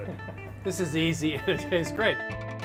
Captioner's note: man laughing